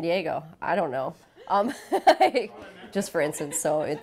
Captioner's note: laughter